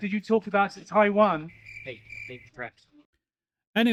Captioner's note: cricket sound